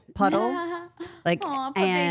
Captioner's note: chuckling